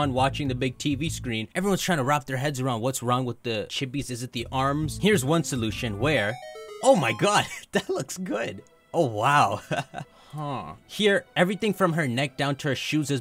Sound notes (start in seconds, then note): 9.5 chuckles